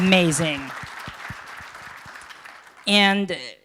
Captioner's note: applause